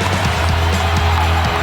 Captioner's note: cheers and applause